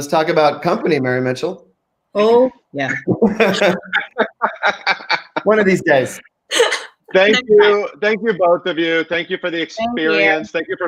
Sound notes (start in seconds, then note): 2.8 group laughing